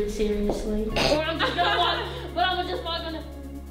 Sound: laughing

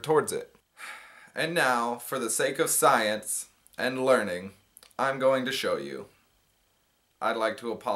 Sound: sigh

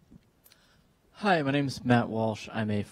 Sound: voiceover

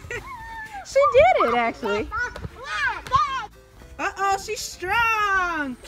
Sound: voiceover

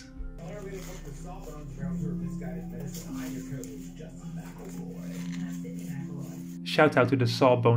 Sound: muffled sound of the Sawbones Podcast in the background

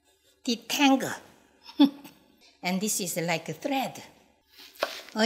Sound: chuckles

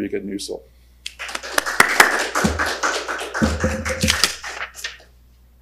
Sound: audience applauds

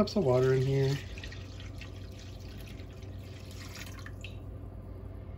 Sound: water splashing sounds

